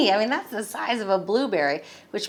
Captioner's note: none